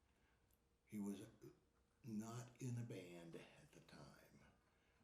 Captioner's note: none